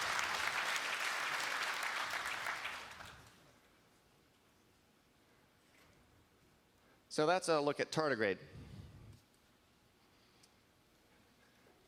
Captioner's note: applause